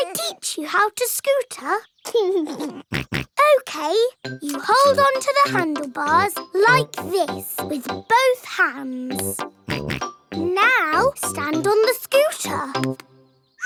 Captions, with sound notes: Shall I teach you how to scooter? (LAUGHS AND SNORTS) Okay. You hold onto the handlebar like this -with both hands. -(SNORTS) Now stand on the scooter.